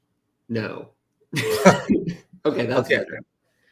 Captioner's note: laughs